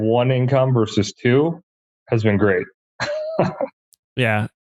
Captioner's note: laughs